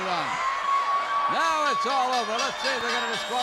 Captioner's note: bell rings